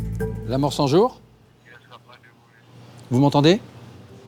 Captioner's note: French spoken audio